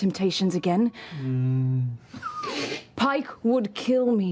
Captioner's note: sad bear growl